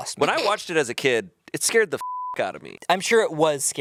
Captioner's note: beep